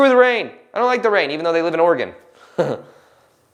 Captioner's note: laughs